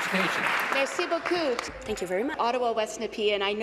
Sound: applause

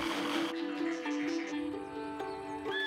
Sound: blender whirring

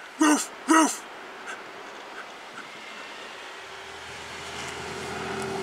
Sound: panting

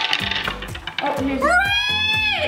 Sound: clanking

